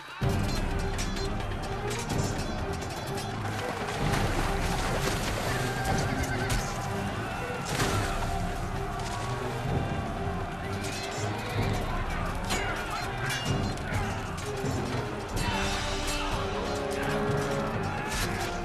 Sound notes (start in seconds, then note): 1.0 crowd cheering; 3.7 dramatic music; 12.9 dramatic music